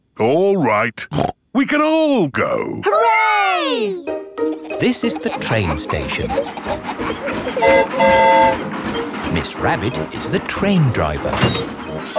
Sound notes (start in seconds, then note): 7.5 train whistle toots